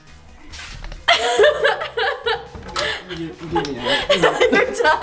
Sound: laughs

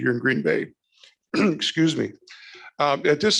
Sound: clears throat

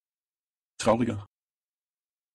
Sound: fast Pronunciation

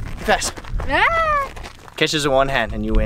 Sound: screams

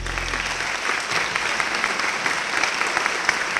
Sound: applause

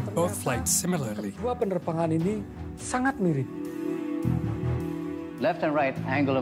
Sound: speaking indonesian

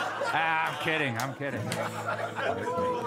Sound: more laughter

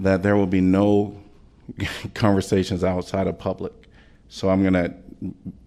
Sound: laughter

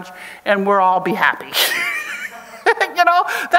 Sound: chuckles

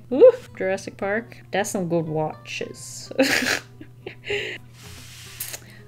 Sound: laughs

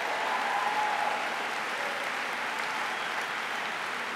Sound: applause

